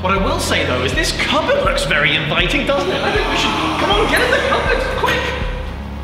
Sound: zombie noises

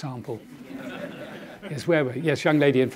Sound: audience laughing

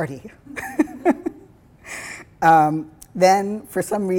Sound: laughing

